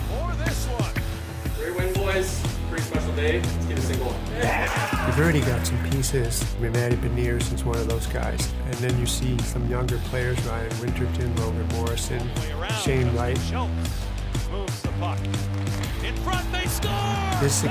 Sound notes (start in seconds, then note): 4.7 locker room cheering